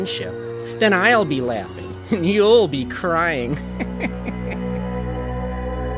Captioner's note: laughing